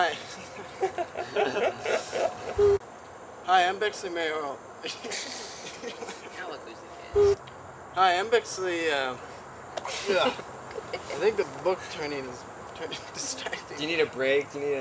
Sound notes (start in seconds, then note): 0.1 laughter; 2.6 boop; 4.8 laughter; 7.2 boop